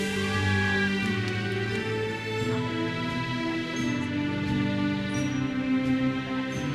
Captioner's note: attendees cheering; uplifting music continues